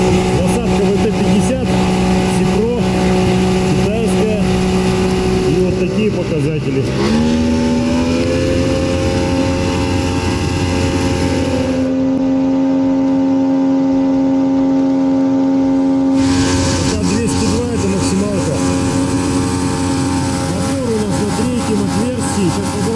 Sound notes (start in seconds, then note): 7.0 engine sounds